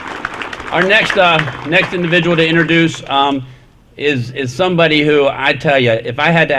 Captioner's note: applause